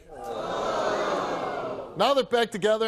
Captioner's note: audience boos